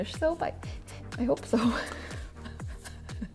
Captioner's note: laughs